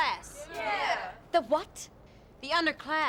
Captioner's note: crowd